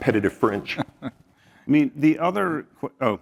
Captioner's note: laugh